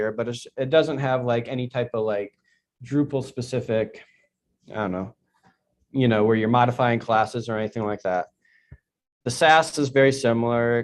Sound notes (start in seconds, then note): none